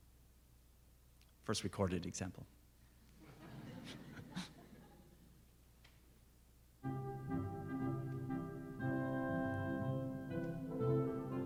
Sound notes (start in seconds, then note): 3.2 soft laughing; 6.8 jovial orchestral music